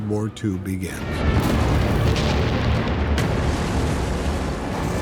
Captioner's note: explosions